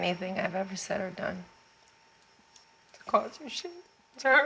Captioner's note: voice breaking